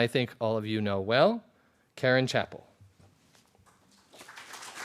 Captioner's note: applause